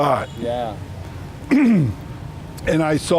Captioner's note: clears throat